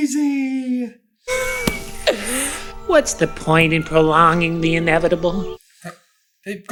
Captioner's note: wheezing